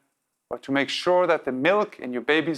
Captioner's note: none